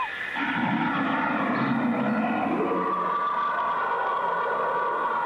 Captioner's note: creature roaring